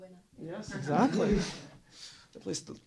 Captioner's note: laughter